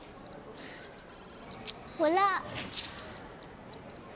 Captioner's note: game beeping